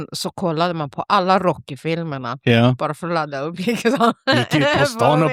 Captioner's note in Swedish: skratt